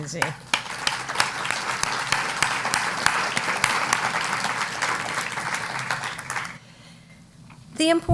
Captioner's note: applause